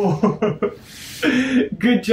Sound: chuckles

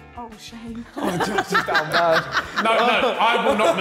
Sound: Sidemen laughing

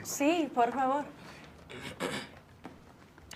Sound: clears throat

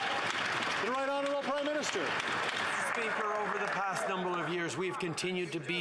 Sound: some Applause

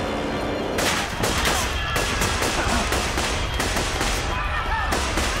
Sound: pops

